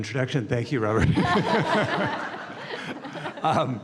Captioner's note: laughter